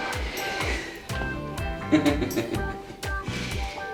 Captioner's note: evil laughing